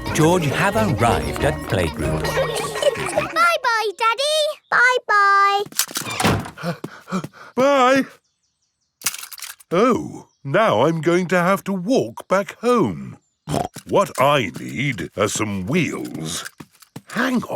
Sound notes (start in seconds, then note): 3.5 snorts; 6.5 panting; 13.5 snorts